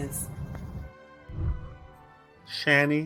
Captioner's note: whooshing